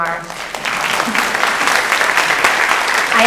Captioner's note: audience applauds